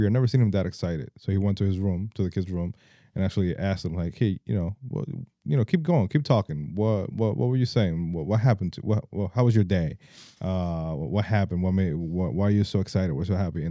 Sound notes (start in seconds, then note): none